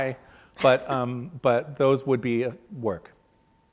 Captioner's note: laughs